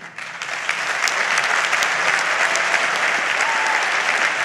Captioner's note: audience applauds